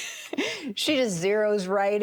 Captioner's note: chuckles